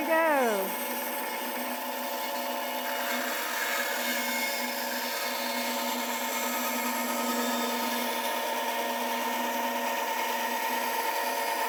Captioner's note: saw cutting wood